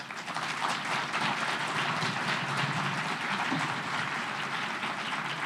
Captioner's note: applause